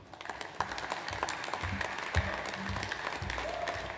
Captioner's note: audience applauds